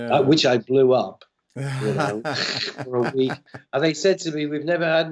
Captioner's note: laughter